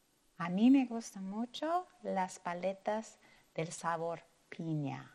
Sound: speaking in foreign language

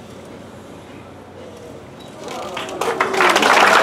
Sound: applause

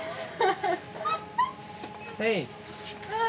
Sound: laughing

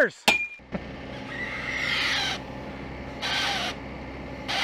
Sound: squeaking

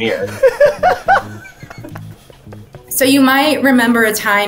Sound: man laughs

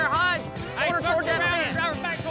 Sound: both yelling

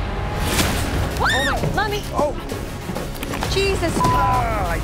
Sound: screams

